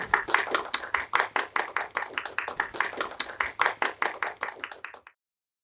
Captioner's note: applause